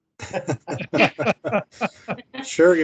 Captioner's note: men chuckle